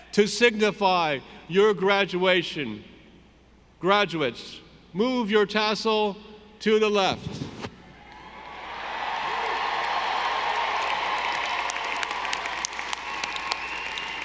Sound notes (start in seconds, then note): 8.7 audience applauding